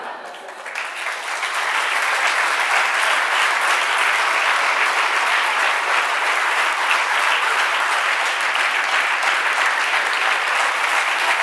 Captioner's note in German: Publikum lacht; Applaus